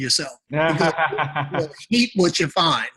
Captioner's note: laughing